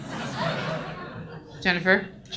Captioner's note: audience laughs